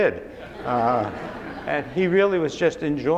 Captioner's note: laughing